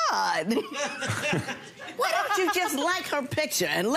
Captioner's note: audience laughs